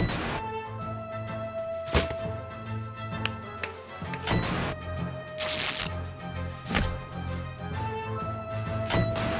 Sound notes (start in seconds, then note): 5.1 ripping